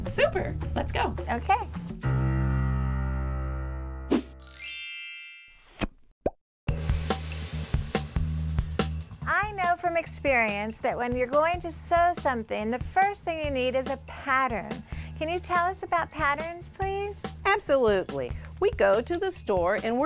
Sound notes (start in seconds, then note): 3.9 pop; 4.4 chime